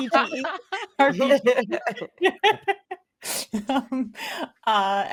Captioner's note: everyone laughing